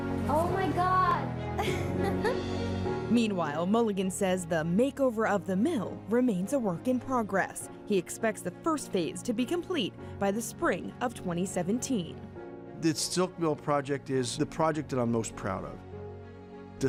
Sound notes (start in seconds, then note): 1.5 laughs